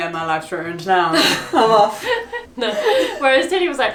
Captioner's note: both laughing